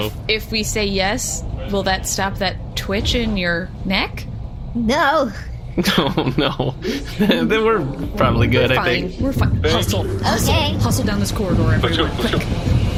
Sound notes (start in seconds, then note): 5.2 hoarse